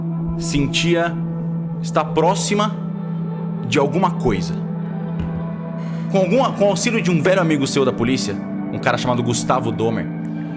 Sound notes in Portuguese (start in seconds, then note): none